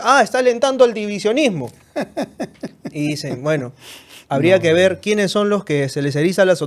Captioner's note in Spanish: risas